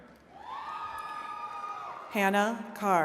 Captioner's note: attendees cheering